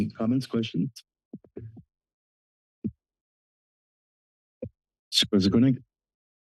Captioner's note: silence